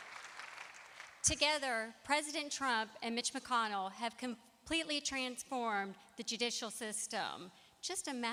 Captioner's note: applause